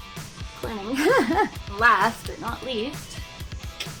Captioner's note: laughs